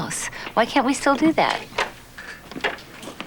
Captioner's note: door opens